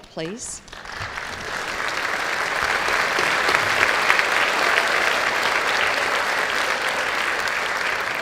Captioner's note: applause